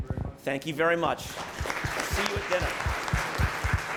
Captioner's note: applause